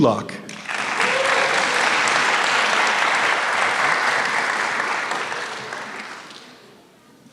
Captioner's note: applause